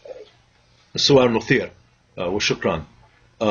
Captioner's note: speaking Arabic